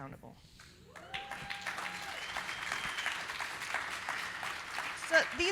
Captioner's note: audience applauding; audience cheering